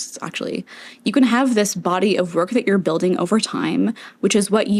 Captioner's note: inhale